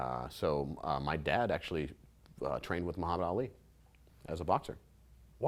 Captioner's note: none